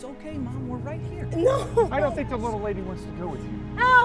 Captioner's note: crying